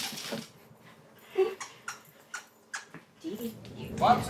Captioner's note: dog toy squeaks